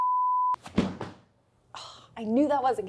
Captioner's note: standby slide beeping; rug thudding; sighing